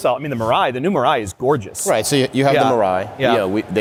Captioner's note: none